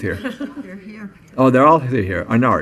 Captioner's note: chuckling